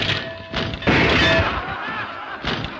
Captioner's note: bell clanging; all laughing